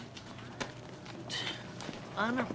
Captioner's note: sighs